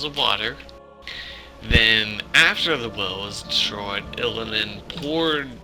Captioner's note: deep breathe